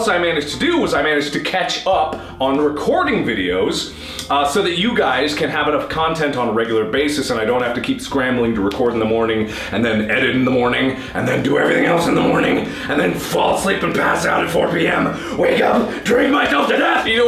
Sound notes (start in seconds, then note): 3.9 deep breath with nose; 10.9 deep gravely voice